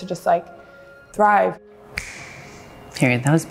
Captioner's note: snap